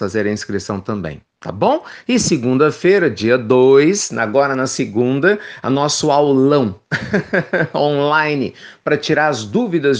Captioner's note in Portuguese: risos